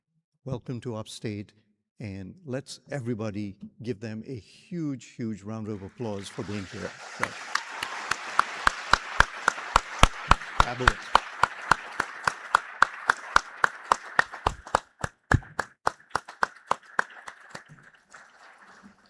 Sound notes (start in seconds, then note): 5.7 applause